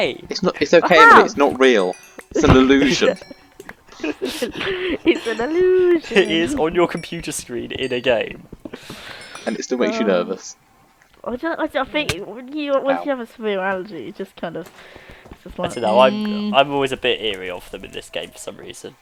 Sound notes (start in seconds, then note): 4.0 awkward Laughter